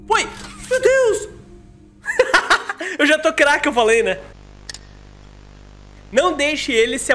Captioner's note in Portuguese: risos